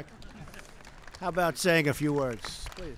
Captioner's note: laughter and applause